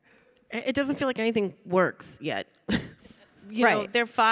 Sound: chuckles

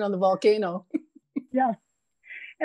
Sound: laughs

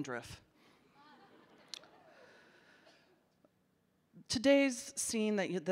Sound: audience laughing

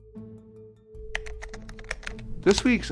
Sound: keys tapping

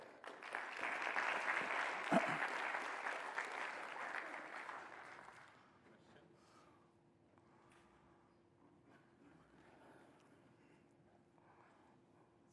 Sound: applause

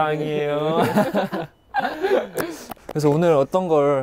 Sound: laughing

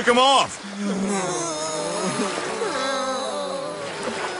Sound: all groaning

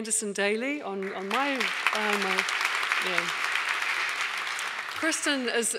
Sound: audience applauding

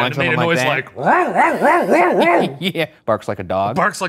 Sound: Professor barks; laughs

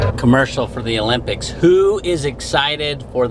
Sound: none

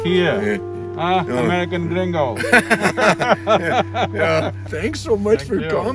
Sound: both laugh

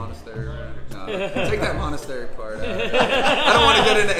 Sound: laughing

